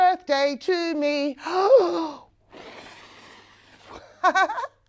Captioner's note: air blowing sounds can be heard